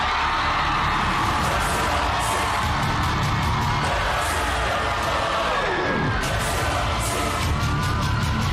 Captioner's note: crowd cheering, applauding